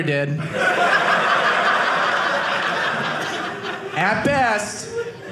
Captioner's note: audience laughing